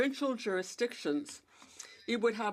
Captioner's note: speaking French